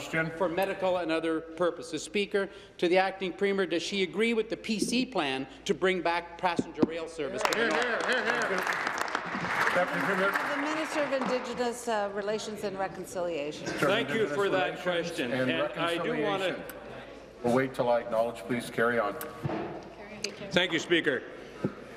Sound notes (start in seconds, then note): 11.6 applause